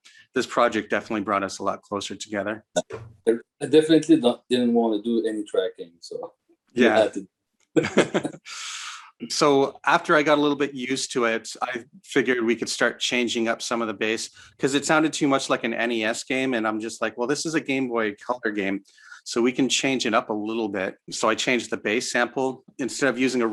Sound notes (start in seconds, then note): 7.8 laughs; 7.8 chuckles